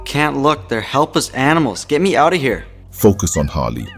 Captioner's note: bells slowly ringing